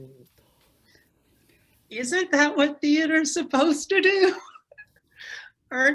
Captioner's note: giggles